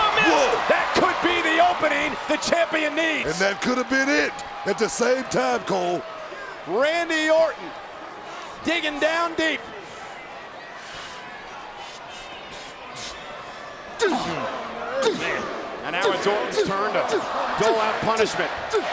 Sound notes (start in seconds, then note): 14.0 Orton grunts